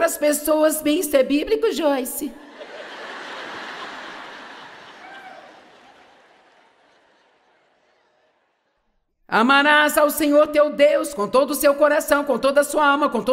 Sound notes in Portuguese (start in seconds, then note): 6.9 audiência ri